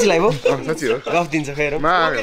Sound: giggling

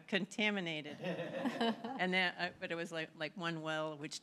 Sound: laughter

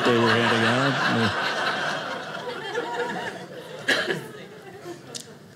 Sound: audience laughing

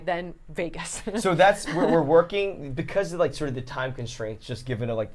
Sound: stammering

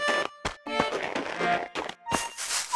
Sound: footsteps

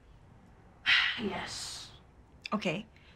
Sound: sigh

